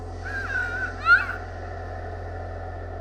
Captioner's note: girl screams; scary music